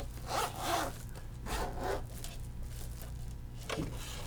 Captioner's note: zipper zipping